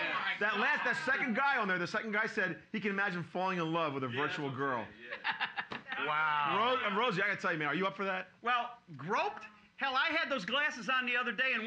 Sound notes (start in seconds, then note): 5.0 laughing